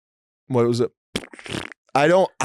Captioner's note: mouth farts